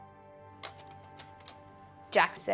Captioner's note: shutter clicking